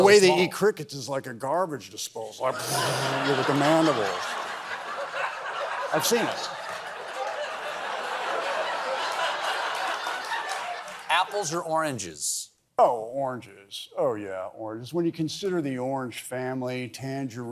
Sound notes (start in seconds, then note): 8.8 laughter